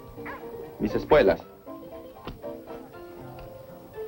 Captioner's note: speaking spanish